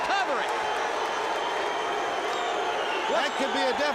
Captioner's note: crowd cheering